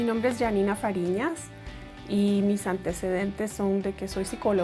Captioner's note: calm music; speaks in foreign language